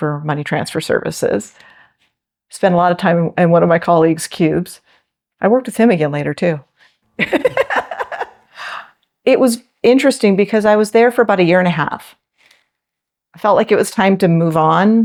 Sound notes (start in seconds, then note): 7.2 laughs